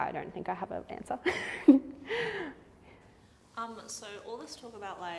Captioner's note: laughs